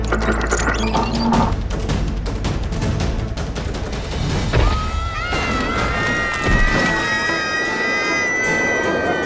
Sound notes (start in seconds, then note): 0.0 creaking; 4.6 children screaming